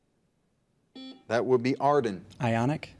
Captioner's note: buzzer beeps